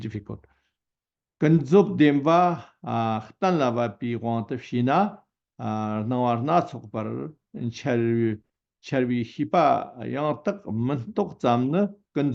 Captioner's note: tibetan